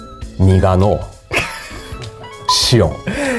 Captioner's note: laughs